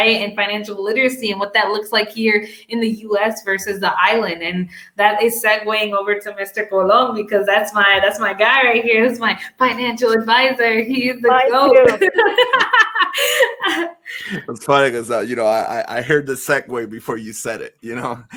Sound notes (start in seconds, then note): 11.3 laughter